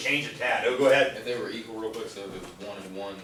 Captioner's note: voiceover